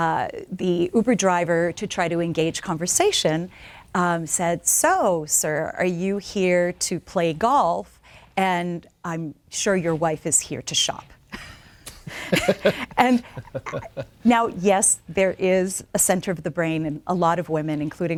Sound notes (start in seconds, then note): 11.3 both laughing